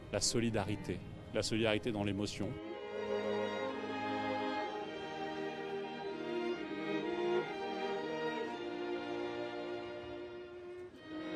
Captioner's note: speaking french